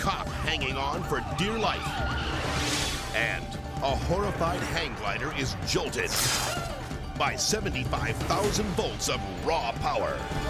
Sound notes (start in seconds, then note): 5.9 electricity crackles